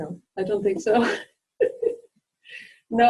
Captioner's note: chuckles